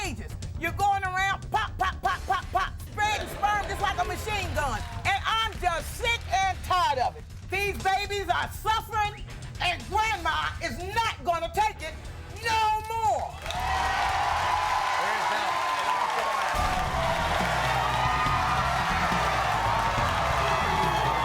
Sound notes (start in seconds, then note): 15.8 applauding and cheering; 17.8 rousing music